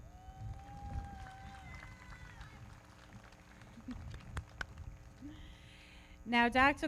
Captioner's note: audience cheering; everybody clapping